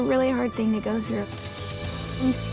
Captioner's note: camera clicks